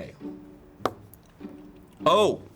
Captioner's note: pen taps